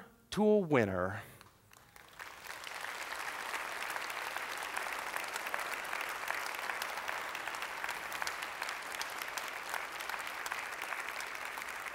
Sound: applause

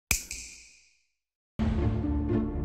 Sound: snap

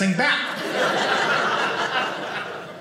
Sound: audience laughing

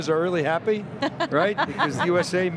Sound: laughing

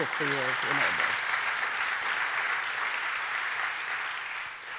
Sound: audience applauding

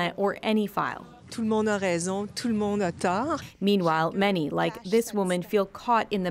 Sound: speaking French

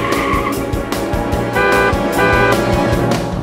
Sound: car honking

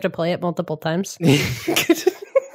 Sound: laughing

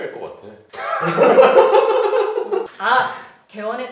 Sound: two Plastic Surgeons laughing

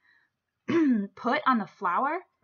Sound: clears throat

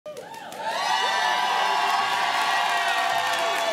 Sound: applause cheers

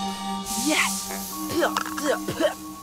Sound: coughs; laughs

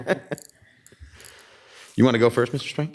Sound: laughs

